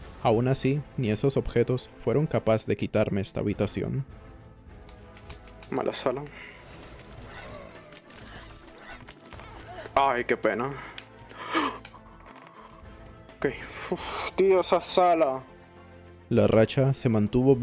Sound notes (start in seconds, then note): 10.7 gasps